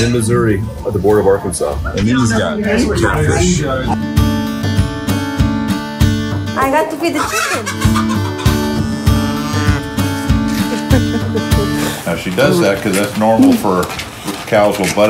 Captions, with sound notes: We're in Missouri at the border of Arkansas. (people chattering) These are cat fish. (slow music) - I have to feed the chicken. (chicken clucking) (cow lowing) - Now she does that 'cause that's normal for cows...